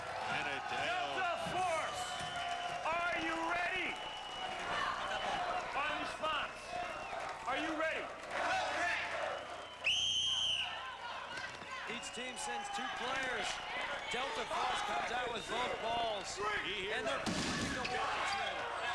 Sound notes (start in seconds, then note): 4.0 cheers; 9.1 whistle blows